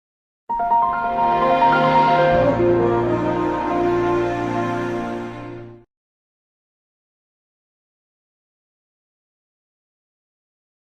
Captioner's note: windows me startup sound playing